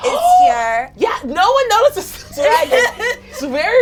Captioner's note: gasping